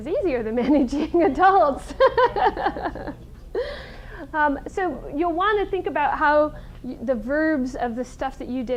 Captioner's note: laughs